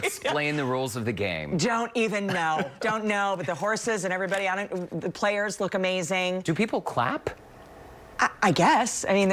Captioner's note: laughter